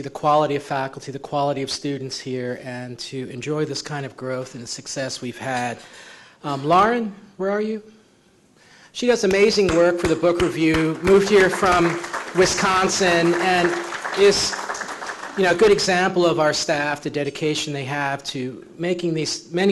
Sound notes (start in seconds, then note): 13.1 clapping